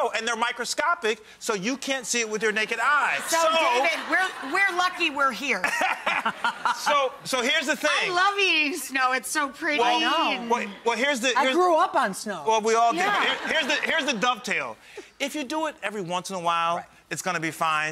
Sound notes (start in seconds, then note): 2.5 crowd laughs; 5.6 laughs loudly; 12.9 crowd laughs